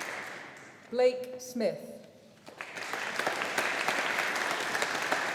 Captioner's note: audience applauding